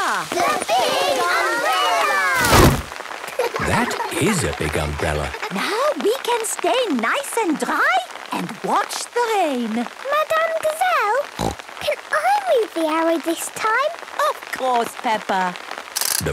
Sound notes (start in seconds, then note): 3.2 laughter; 11.3 snorting